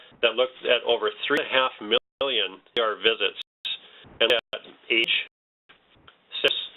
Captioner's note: static